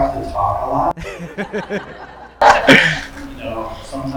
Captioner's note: group laughing